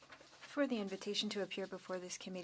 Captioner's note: speaking French